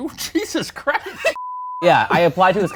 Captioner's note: beeps